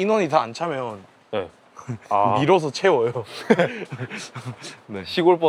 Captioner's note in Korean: 웃음